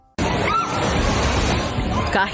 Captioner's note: screams